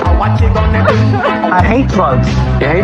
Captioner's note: sobs